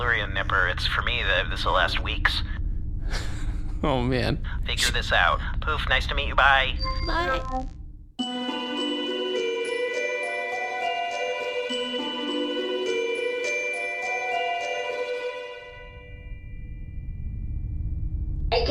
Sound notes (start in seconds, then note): 3.1 laughs; 7.2 end transmission sound; 13.0 voice quavering; 18.5 transition music